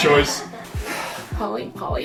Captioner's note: laughter; sigh